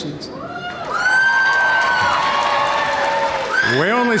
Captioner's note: audience cheering and applauding